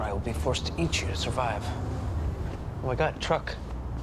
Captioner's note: vehicle approaching